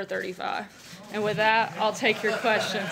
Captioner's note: laughter